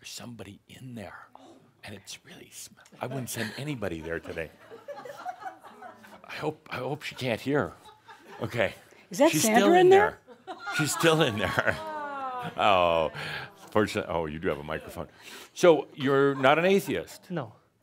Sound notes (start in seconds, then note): 2.9 some giggles; 12.9 audience says “Ohh”